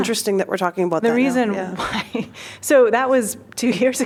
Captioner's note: laughter